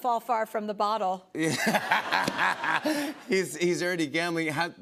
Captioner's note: laughs